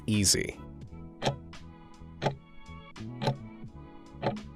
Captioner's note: timer ticking